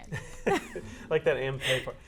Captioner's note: laughs